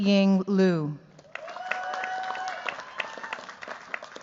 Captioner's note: cheers, applause